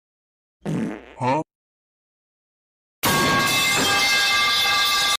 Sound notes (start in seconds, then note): 0.6 fart; 3.0 metal_pipe_falling.mp3